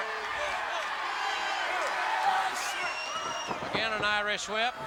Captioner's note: crowd cheering